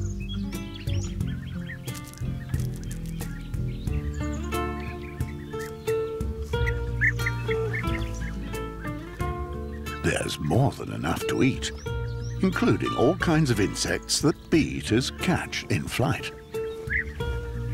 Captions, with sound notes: [birds tweeting] There's more than enough to eat including all kinds of insects that bee-eaters catch in flight.